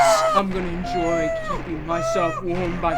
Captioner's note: Amy whimpering